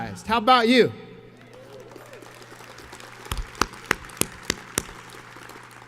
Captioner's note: audience cheers and applauds